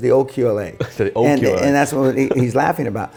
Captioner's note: chuckles